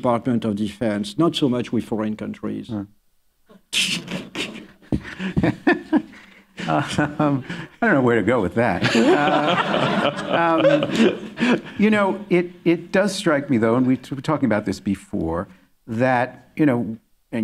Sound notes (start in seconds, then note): 3.8 laughing; 8.8 laughter